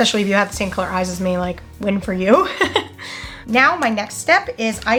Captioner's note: laughs